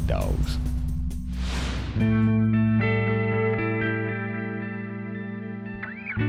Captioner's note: gentle rock music; frame whooshes